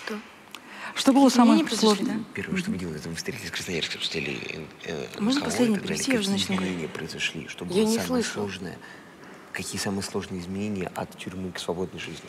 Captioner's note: foreign Language